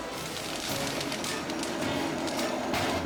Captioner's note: flames crackling